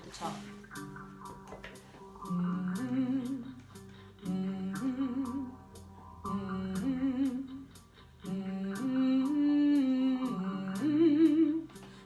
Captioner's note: humming